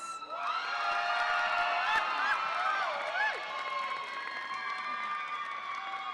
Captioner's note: audience applauds and cheers